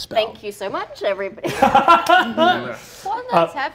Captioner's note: laughing